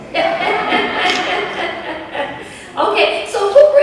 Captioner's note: chuckles